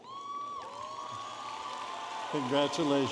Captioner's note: audience applauding and cheering